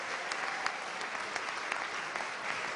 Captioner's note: applause